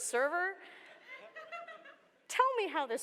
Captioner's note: laughter